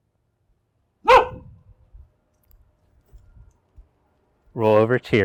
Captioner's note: dog barking